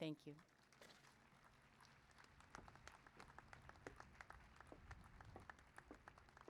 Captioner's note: applause